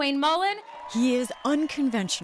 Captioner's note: cheering